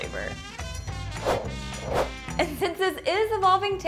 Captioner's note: air whooshes